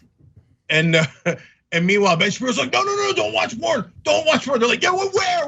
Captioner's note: laugh